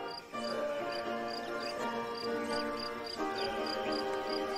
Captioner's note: birds chirping